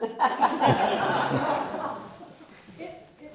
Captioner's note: audience laughing